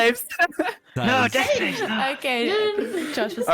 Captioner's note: still chattering